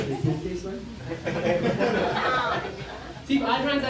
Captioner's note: laughter